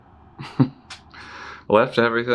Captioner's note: Ludlow releases a desperate laugh